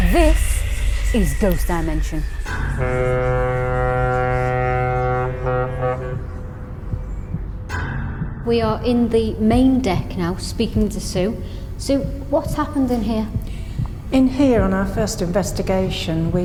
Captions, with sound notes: This is Ghost Dimension. (ship horn honking) We are in the main deck now, speaking to Sue. Sue, what's happened in here? - In here, in our fist investigation,